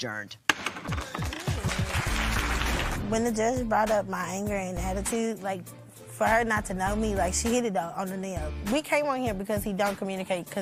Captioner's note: gavel bangs